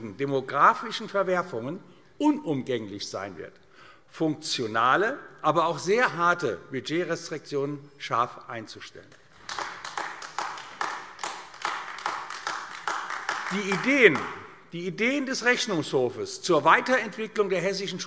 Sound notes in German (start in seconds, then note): 9.2 Beifall AfD